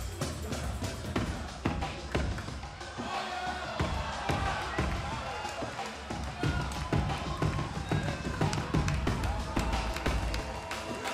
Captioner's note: fans chanting